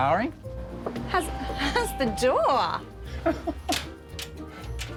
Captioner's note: laughing